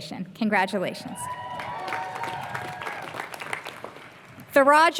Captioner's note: applause